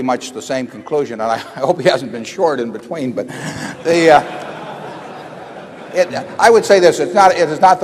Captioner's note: laughter